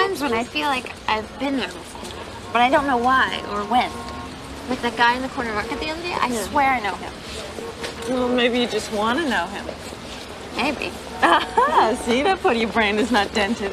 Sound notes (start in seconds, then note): 11.2 Betsy laughs